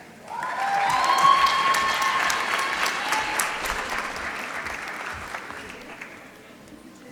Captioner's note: applause